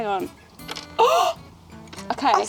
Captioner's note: gasps